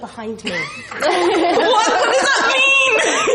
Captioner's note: laughs